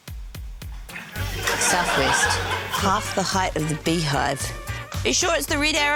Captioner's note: laughter